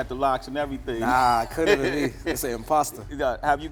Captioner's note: chuckles